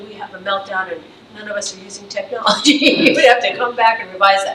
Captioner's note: laughs